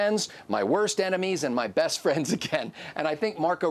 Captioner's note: laughs